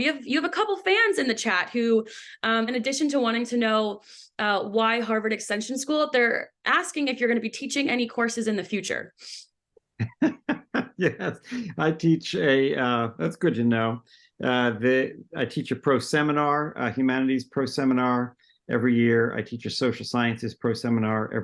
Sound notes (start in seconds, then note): 10.0 laughs